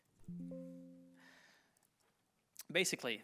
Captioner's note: computer chimes